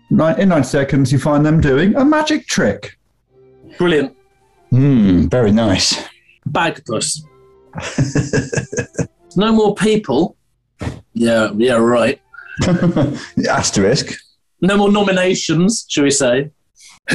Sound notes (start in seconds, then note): 7.7 chuckling; 12.3 chuckling